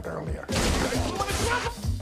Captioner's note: shouting